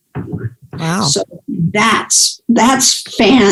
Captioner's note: chuckles